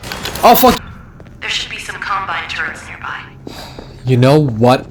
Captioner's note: sigh